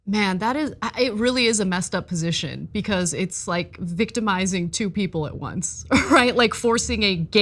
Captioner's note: laugh